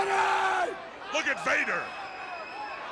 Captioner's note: crowd cheering